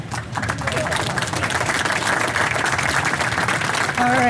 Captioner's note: applause